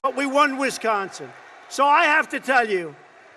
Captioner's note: applause